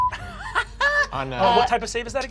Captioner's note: laughs